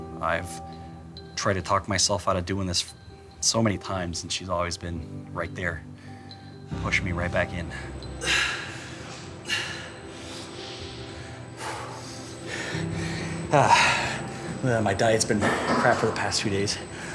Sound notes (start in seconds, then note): 8.5 grunting